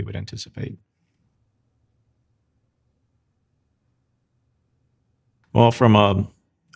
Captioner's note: silence